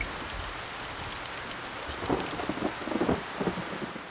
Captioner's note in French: Le bruit d'un léger grésillement